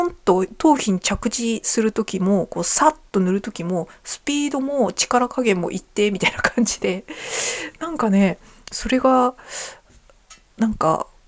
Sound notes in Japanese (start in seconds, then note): 6.2 笑い